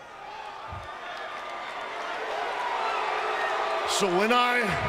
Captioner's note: crowd chattering